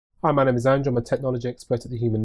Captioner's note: voiceover